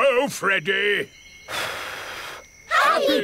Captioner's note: blows